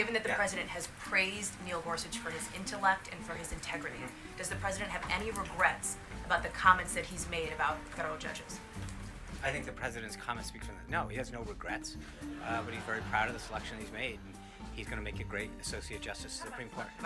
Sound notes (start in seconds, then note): 12.2 laugh track